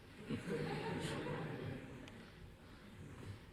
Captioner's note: laughter